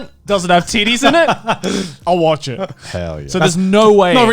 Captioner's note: chuckles